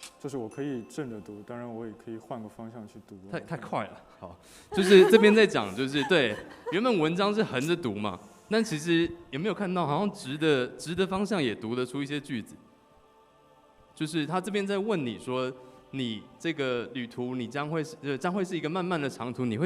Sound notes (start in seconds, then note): 4.7 laughs